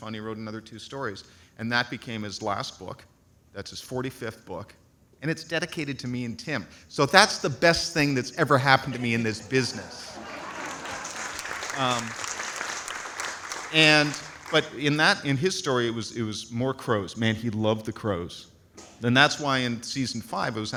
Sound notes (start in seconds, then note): 9.5 audience applauds